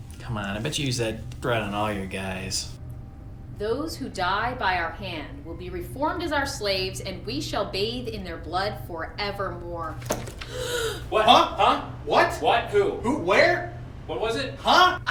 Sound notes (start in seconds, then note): 10.4 Shaina gasps